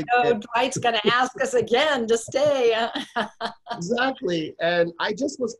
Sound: laughs

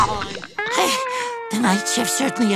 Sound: panting

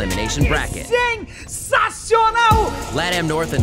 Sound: speaking foreign language

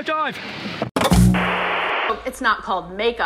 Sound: static

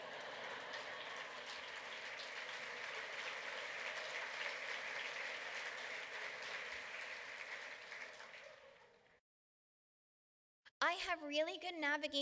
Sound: laughter, clapping

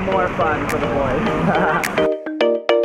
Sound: laugh; upbeat music

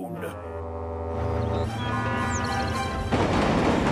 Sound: boat's horn blasts

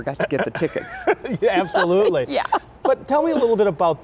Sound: laughs

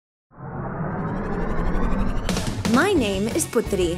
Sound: engine whirring

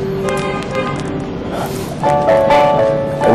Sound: man sighs

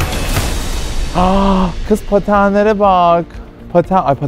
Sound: gasps

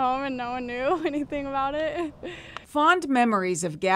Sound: laughter

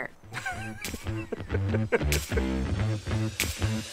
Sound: laughs; upbeat music

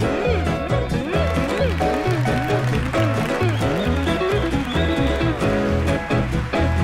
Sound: audience applauding; audience cheering

